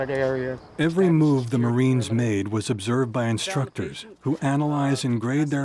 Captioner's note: voiceover